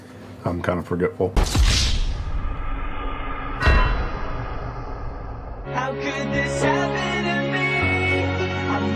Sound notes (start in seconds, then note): 1.4 GTA5 Wasted sound effect